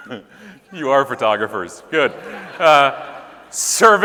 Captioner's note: laughing